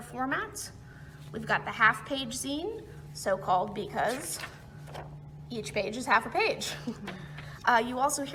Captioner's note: chuckles